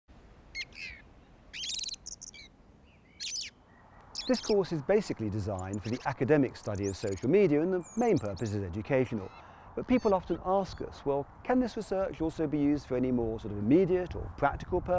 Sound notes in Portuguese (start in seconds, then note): 0.0 canto de pássaros